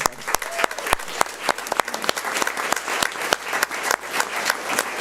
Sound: audience applauds

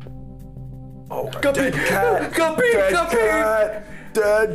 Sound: gasp

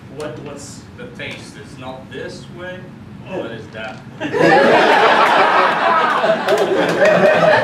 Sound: laughter

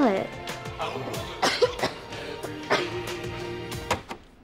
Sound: coughing

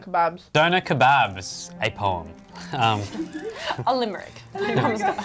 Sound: laughing

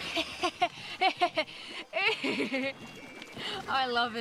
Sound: laughing

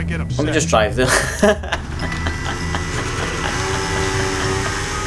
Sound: laughs

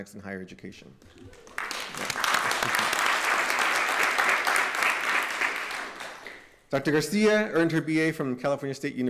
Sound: applause

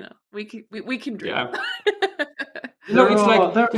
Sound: laughs

